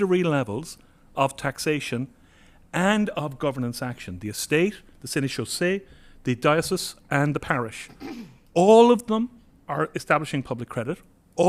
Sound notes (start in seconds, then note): 5.5 french